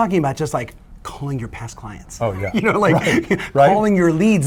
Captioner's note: laughing